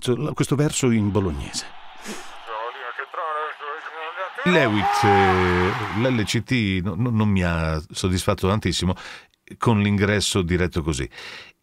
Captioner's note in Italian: Applauso